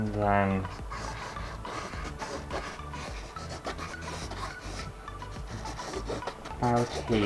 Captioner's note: pen Scraping On Canvas